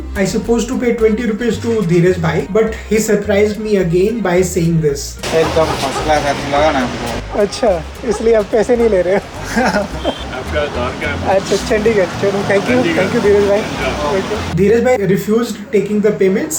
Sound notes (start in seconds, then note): 9.1 laughs